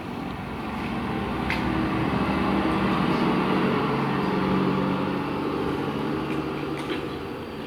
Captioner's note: SFX: Truck driving away